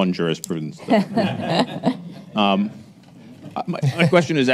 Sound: attendees laugh

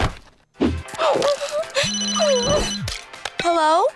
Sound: crying, phone ringing

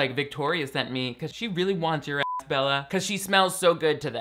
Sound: beep

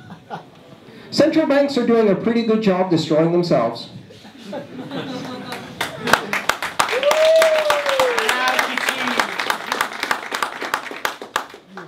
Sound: applause

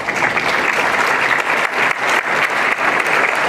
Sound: applause

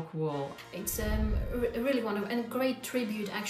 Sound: scene whooshing

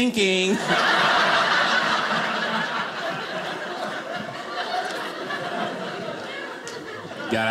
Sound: audience laughing

